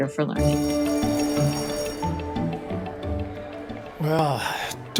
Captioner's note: school bell rings